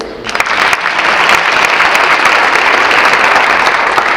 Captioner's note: audience clapping